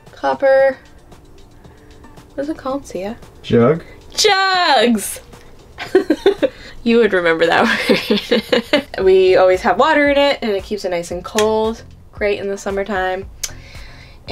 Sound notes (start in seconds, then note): 5.7 laughing